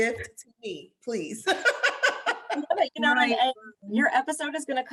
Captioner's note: laughter